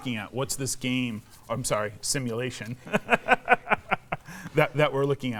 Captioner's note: laughs